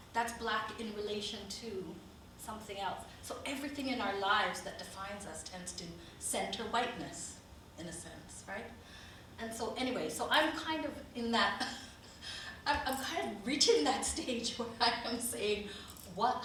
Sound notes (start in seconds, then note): 12.2 chuckles